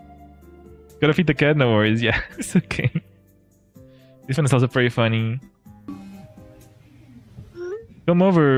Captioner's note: laughter